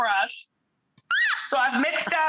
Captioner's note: squeals with laughter